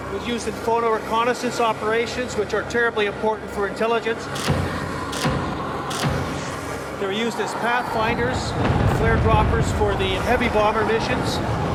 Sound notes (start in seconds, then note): 4.3 camera snaps